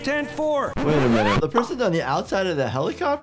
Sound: record scratches

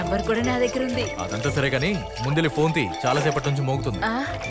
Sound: phone rings

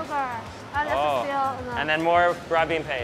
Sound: speaks Mandarin

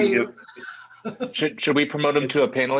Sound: laughter

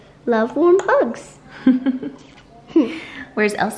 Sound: giggles

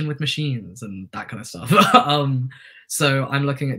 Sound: laughter

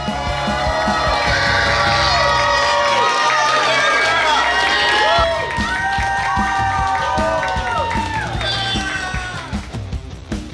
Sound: cheering

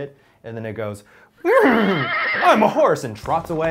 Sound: whinnies

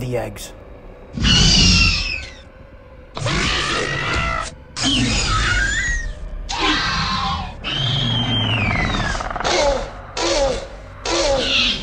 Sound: Raptor Squeals

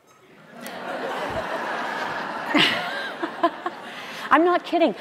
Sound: audience laughing

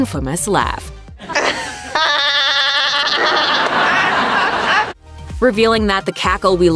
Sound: laughter

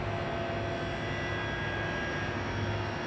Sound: distant sound of a saw blade whirring

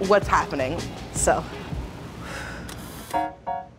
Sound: breathes

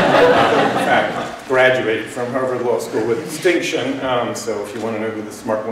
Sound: laughter

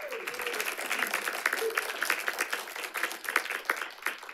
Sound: audience applauding

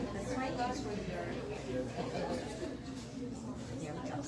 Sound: indistinct chatter

